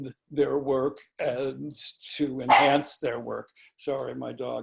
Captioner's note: dog barking